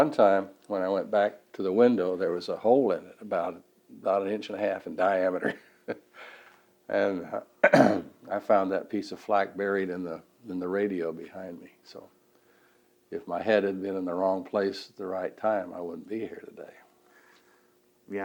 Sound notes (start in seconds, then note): 5.7 laughs; 7.6 clears throat